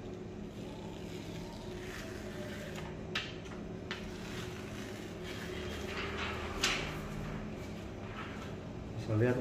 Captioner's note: PET film sound